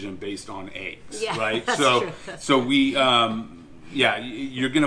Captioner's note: laughing